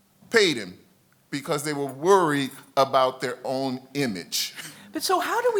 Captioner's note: laughs